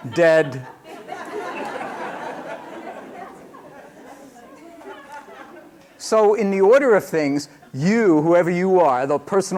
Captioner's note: laughter